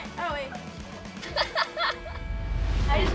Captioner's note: laughing